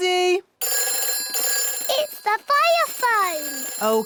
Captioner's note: phone rings